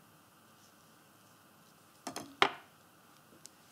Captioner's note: clattering